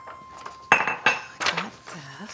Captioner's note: papers rustling; mug clanking on counter